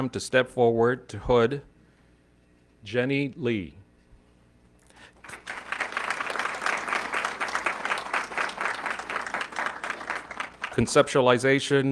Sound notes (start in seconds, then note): 5.1 audience clapping